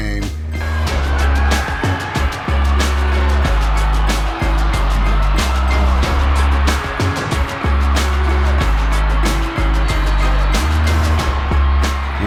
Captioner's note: crowd cheering